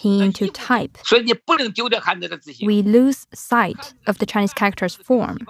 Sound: speaking Mandarin

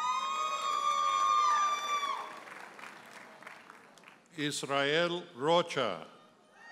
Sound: audience hollers and applauds

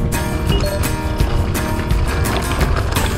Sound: upbeat music; beeps

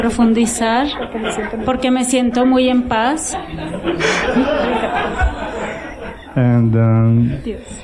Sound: laughter

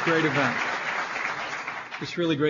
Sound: applause

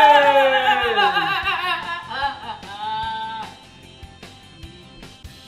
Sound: child laughing; playful music

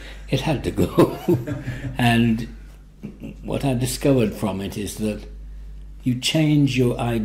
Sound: laughs

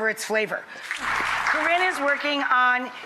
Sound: applauding

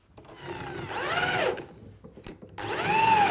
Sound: whirring of the screwing machine

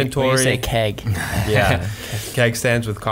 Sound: laughing

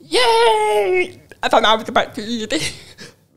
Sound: chuckles

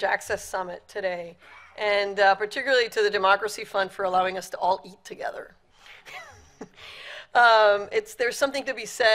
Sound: laughs

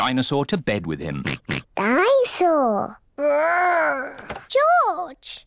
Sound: oinks

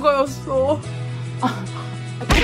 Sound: sob sob

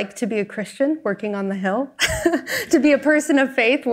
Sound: chuckles

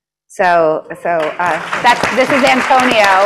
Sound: applause

